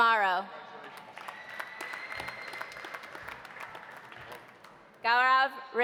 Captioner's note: audience applauding; audience cheering